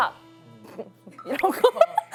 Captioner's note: snorts